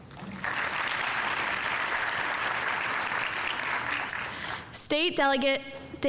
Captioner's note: audience applauding